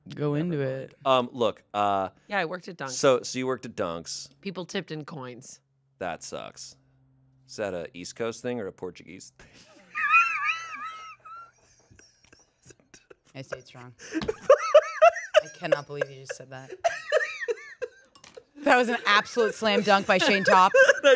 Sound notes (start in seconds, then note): 11.4 laughs; 14.0 laugh